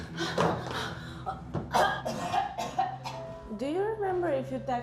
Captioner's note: tense music; Aleks coughs